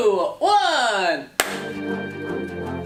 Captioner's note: claps; electronic music